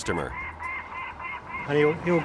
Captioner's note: Robop squawking